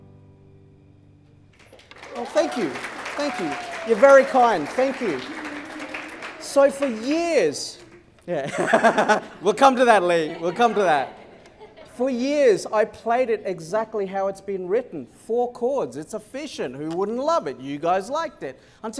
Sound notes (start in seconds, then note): 8.3 laughter